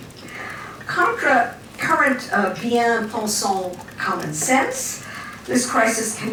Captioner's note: french